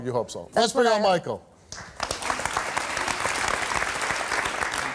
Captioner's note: audience clapping